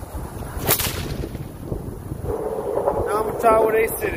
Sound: whip cracks

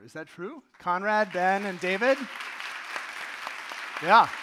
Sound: audience applauding

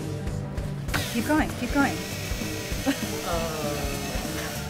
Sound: drill whirs

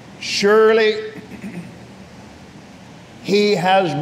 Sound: clears throat

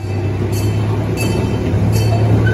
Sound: train whistle

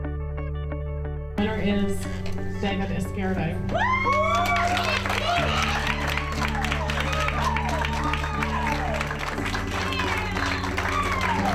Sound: cheers and Applause

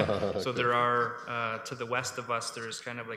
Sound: laughter

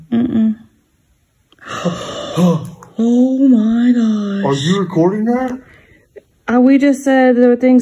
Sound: gasp

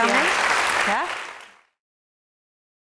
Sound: applause

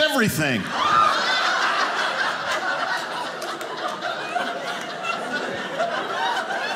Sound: audience laughing

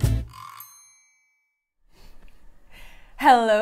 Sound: bell dings

